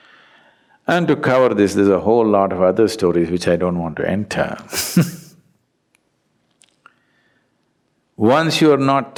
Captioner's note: laughs